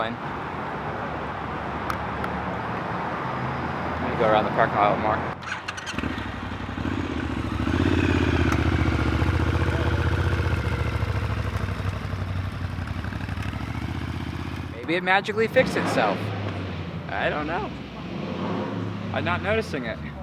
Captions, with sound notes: Maybe I need to go around the parking lot more. [More sexy motorcycle sounds] maybe it magically fixed itself? I don't know. I'm not noticing it.